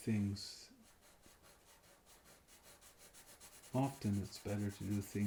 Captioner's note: pencil scratching